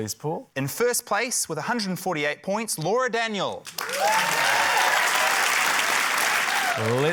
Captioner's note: cheering, applause